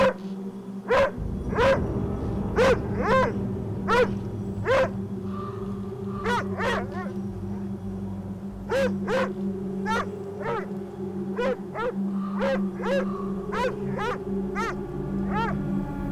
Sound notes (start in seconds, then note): 2.5 the dogs bark protectively; 2.5 threatening ambient music; 5.2 A crow caws; 14.1 the music builds up to a climax